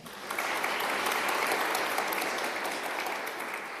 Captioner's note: applause